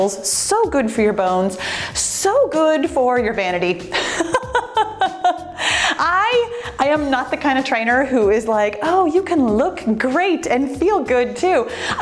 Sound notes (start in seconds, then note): 3.9 laughs